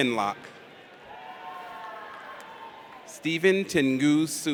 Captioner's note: audience applauds